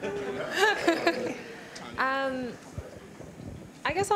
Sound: laughter

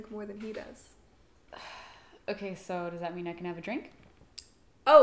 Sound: sighs

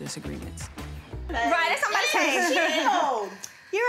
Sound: indistinct chatter

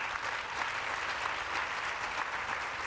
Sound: applause

